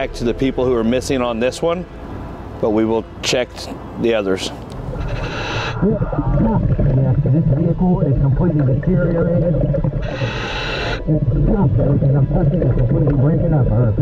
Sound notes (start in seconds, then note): 4.8 mouthpiece hissing; 5.3 water bubbling